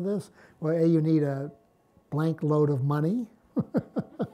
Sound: laughs

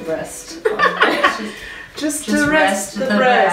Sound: laughs

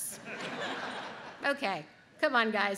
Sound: audience laughs

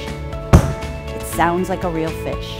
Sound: thuds loudly

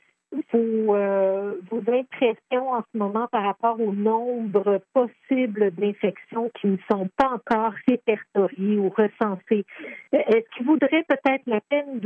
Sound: reporter speaking in French

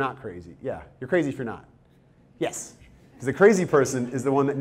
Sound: audience chuckles

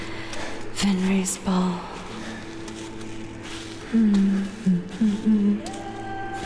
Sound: hums to herself

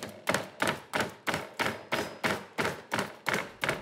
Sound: pounding

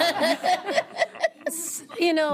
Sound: audience laughing

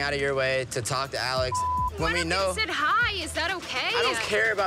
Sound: beep

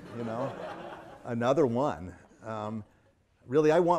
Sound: audience laughing

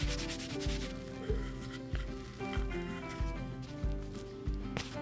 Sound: rubbing; dough squeezes against the rolling pin

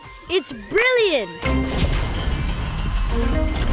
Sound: whirring

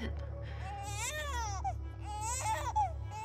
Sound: baby crying

